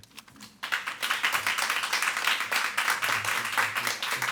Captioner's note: attendees clapping